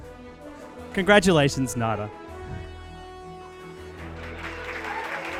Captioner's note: audience clapping